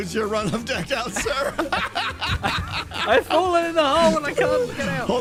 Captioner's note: laughs